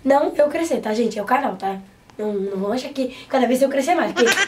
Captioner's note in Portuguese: laugh